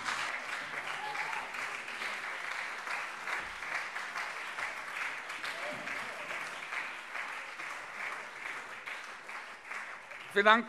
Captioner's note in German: Beifall SPD und CDU